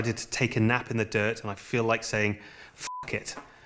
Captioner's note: beep